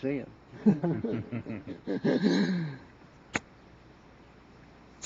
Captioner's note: men chuckle